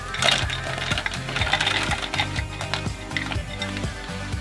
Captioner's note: mussels crackling